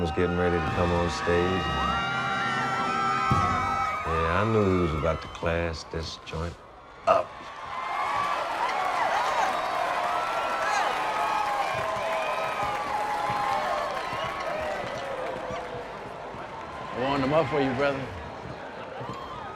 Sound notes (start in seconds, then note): 3.9 cheering; 8.7 crowd cheering